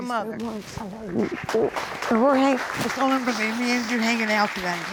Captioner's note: applause